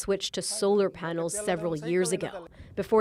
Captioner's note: speaking alternate language